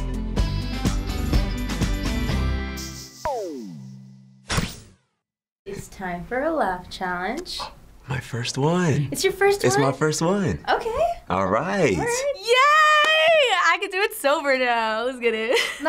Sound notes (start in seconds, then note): 7.7 gasps; 15.5 chuckles